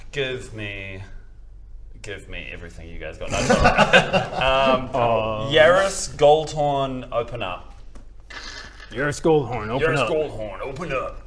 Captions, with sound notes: Give me give me everything you guys got no I'm joking *laughs* Yarris Goldhorn open up *crrrk* Yarris Goldhorn open up Yarris Goldhorn open up!